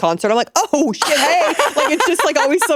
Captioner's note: laughing